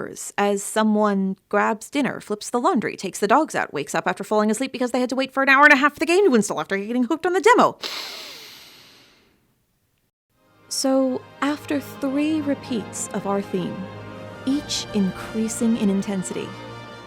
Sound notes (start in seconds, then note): 7.8 deep breath